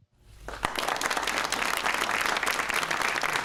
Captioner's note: audience applauds